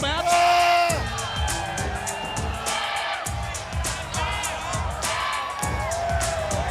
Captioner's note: fans cheering; Booker T screaming; fans chanting; upbeat music